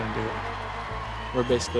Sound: cheering

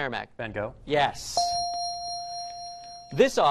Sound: ding

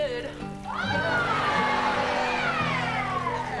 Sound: cheering

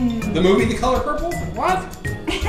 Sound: voiceover

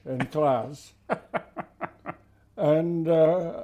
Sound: laughs

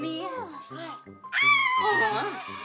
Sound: shrieks

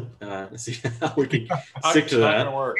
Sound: laughs

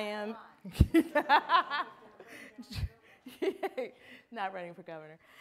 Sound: laughs

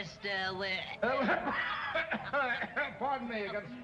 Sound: Whipsnade coughing

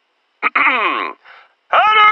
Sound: clear throat

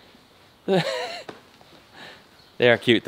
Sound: laughing

